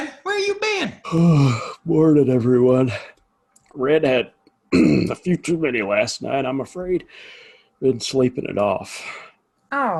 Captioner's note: yawning